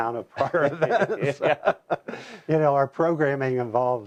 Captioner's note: laughter